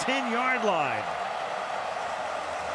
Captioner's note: cheering; pa announcement